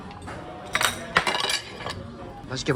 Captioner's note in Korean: 댕그랑 댕그랑!